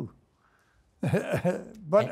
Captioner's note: chuckling